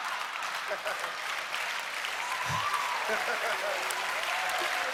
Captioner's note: laughter; cheers and applause